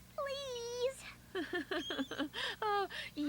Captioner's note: laug■ing